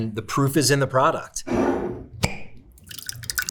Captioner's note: jar scraping; sauce sloshing; jar cap clacking